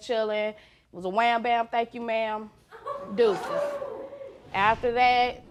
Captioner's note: laughter